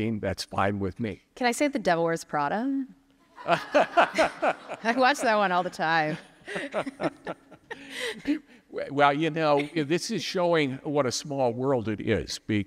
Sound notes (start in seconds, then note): 3.4 laughing; 4.1 audience applauding; 7.2 both laughing